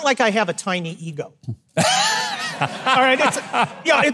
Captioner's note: Mike and audience laugh